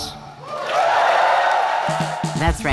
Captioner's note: audience cheers